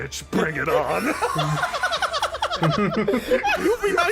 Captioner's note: more Laughter